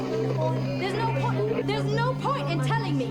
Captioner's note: static crackling